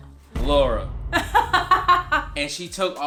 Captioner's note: laughs